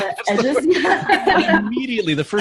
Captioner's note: laughing